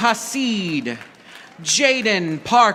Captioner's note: audience applauding